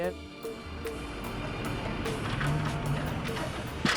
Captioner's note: ladder rattling